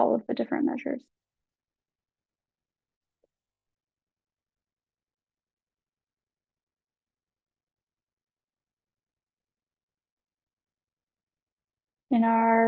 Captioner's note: silence